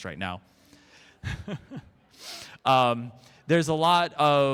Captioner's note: nervous Chuckle